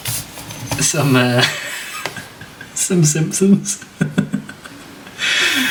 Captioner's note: laughs